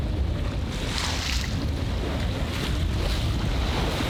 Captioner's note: water splashing